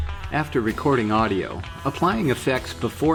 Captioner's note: voiceover